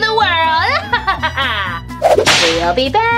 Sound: evil laughing

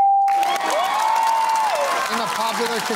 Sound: cheering and applause

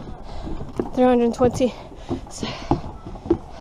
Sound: steps

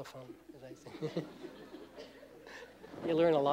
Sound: laughter

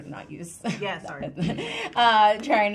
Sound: women chuckling

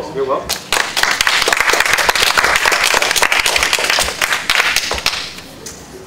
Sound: applause

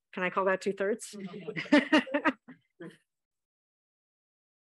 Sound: laughter

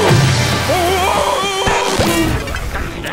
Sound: whimpering

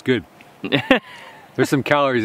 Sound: man laughs

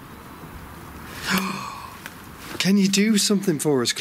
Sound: gasps

